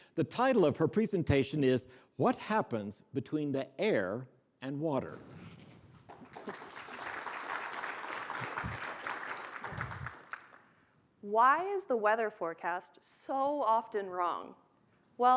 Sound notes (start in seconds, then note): 6.0 applause